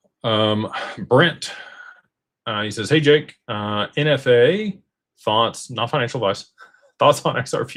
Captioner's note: gasps